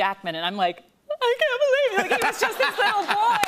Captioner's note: sobbing